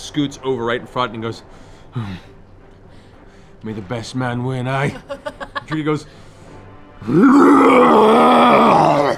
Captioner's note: loud growl